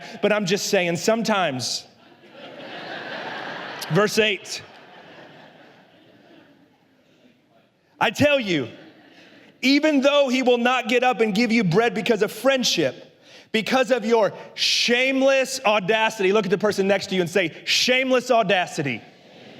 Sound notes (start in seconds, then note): 1.9 la congregación se ríe